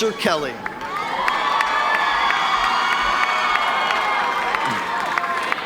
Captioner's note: audience cheering